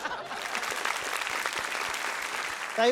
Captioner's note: applause